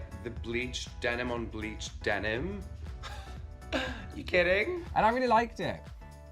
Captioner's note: laughs